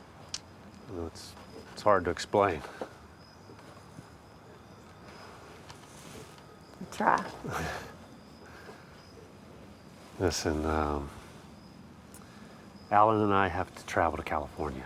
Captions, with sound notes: well, it's hard to explain. - Well, try. (George Jr. chuckles) - Listen, um, Allen and I have to travel to California.